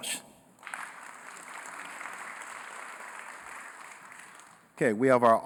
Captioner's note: applause